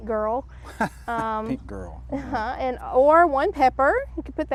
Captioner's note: chuckles